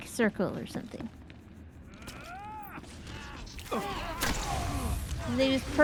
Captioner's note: yelling